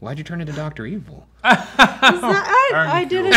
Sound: laughing

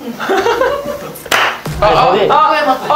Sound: clap!

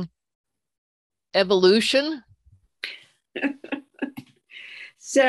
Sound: chuckle

